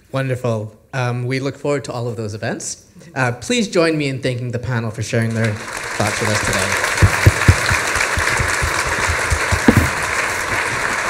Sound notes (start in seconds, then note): 6.9 applause